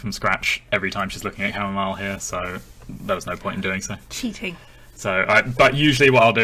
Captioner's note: gasps